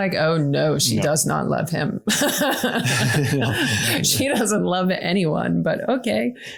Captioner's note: laughing